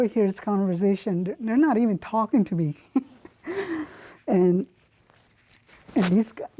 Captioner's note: laughs